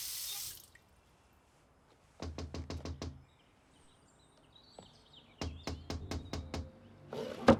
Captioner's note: knocking on door